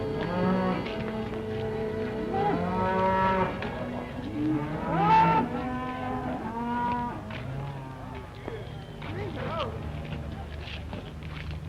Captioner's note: noise of cattle and shouts